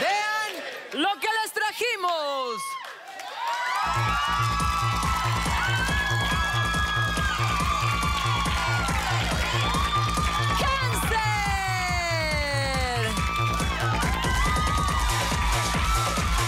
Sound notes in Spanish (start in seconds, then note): 5.3 Gritos y exclamaciones; 12.9 Aplausos; 14.6 Exclamaciones